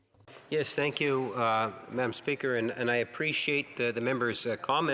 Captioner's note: speaking French